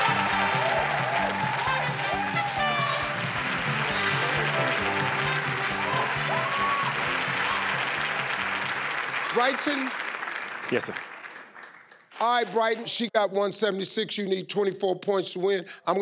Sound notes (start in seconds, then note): 4.1 audience clapping